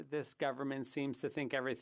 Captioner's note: speaking French